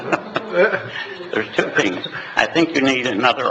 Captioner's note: laughing